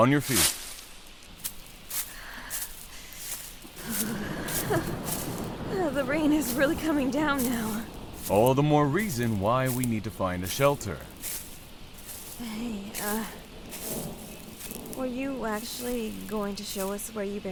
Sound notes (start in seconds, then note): 3.9 shivering